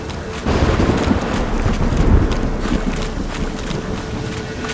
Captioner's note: thunderclap